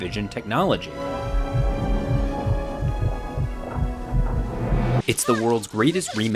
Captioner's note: suspenseful music; heartbeat thumping